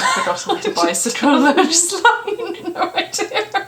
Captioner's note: laughs